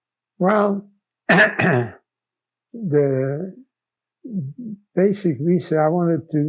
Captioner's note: clears throat